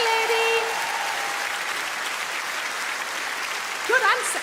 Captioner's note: audience clap